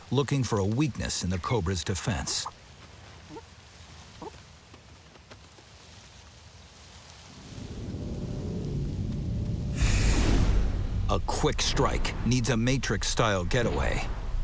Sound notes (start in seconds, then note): 9.7 cobra hisses; 10.1 suspenseful music